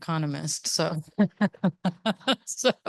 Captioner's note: laughs